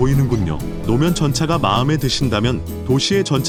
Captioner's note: trams